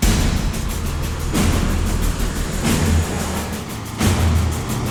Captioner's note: vehicles driving